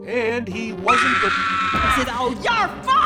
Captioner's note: scream